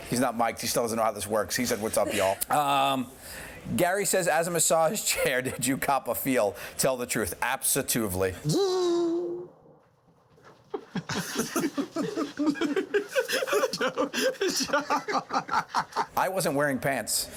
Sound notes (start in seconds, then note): 10.7 laughter; 14.6 laughs